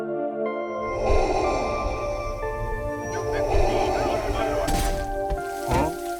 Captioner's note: guard breathes heavily